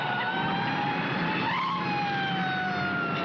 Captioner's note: tires squealing